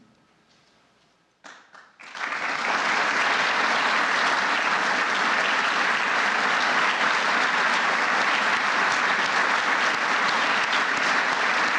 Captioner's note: applause